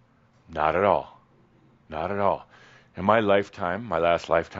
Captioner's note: none